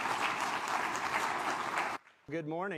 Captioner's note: applause